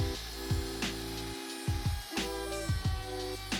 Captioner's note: mellow music; mortiser buzzing; mellow music